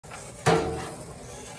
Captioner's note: dragging sound